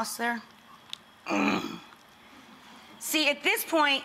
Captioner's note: grunting